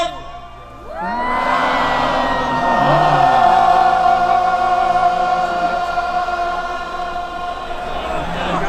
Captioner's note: crowd